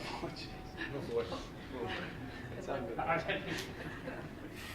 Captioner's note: mild chattering